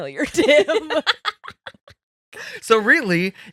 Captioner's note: laughing